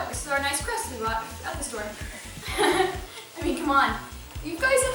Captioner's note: laughter